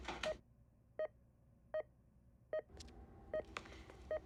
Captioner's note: medical beeping